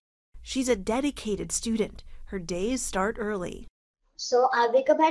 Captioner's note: voice-over